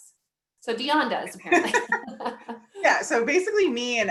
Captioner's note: laughter